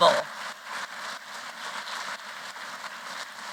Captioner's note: applause